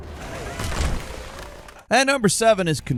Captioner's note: character plops